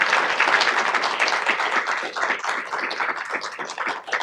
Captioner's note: audience clapping